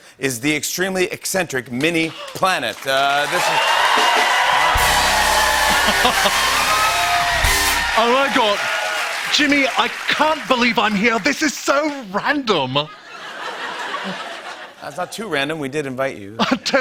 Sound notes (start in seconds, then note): 5.4 cheers and applause; 7.9 British accent; 12.8 laughter